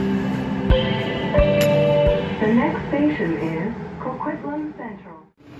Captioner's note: Skytrain Chime